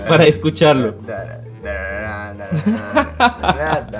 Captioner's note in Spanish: Tarareando; Risas